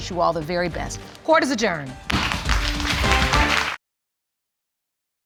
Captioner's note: gavel bangs